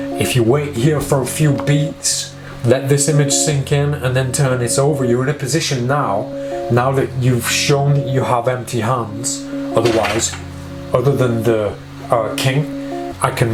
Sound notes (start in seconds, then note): 9.8 clattering